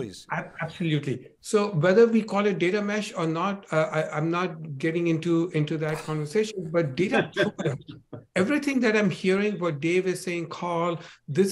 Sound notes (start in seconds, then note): 7.0 laughing; 7.0 chuckles; 7.1 audio breaking